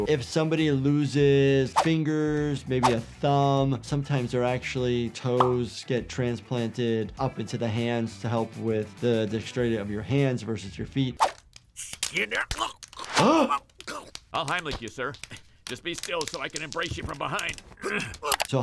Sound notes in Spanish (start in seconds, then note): 12.5 ahogándose; 13.6 jadeando; 17.8 gruñidos